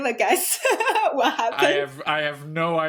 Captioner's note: chuckles